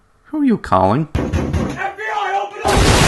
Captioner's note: knock knock